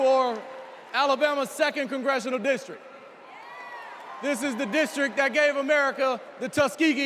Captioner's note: cheers and applause